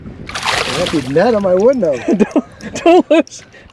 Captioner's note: laughter